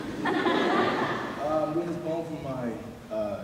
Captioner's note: laughter